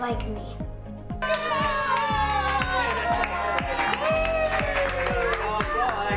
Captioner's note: family cheering, clapping